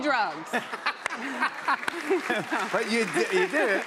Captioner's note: cheers and applause